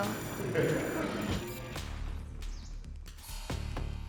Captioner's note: laughter